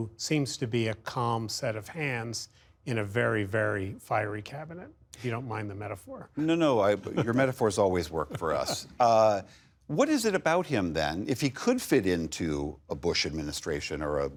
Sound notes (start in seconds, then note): 8.1 laughter